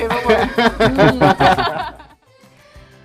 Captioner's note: laughter